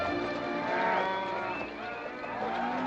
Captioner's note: cattle mooing; whistling & mooing